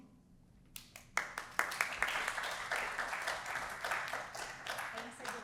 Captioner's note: audience applauding